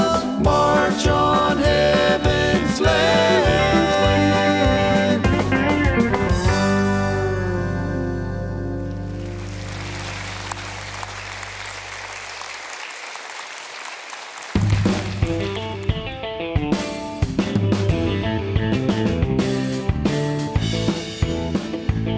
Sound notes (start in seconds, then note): 9.0 applause